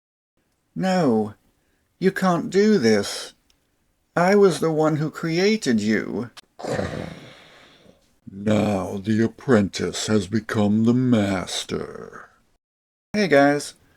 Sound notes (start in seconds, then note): 6.8 Vader Sounds